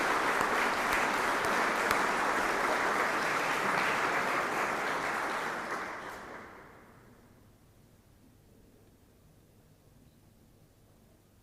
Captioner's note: applause